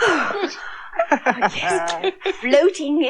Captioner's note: magician Laughs